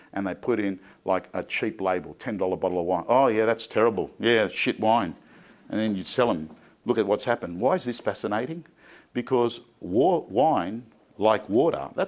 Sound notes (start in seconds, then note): none